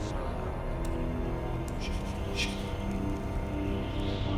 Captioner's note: wind howling